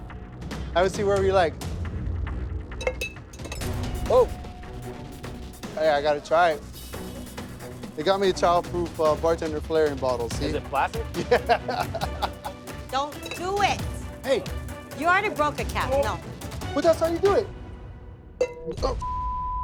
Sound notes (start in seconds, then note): 2.8 cup clangs; 11.0 laughs heartily; 18.4 cup clangs; 18.9 beep